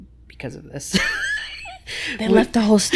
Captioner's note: laughs